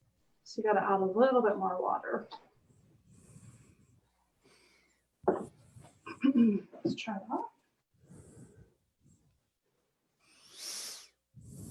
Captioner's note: clears throat